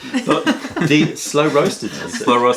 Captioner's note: laughter